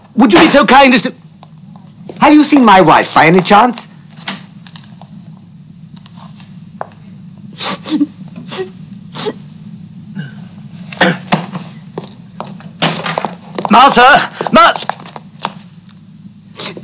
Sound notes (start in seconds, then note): 7.6 lady sobs; 12.6 feet shuffling